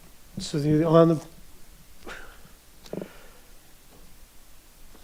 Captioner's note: sighs